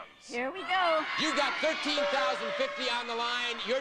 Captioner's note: audience cheering